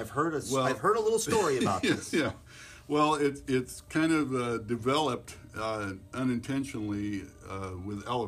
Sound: laughs

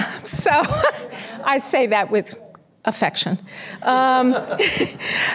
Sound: laughing

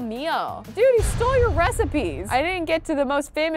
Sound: thunderous boom

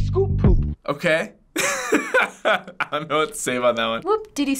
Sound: laughs

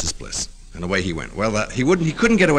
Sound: laughter

